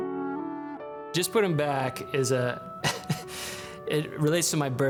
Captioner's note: gentle melancholic music; laughs